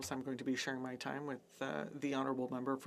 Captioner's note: speaking French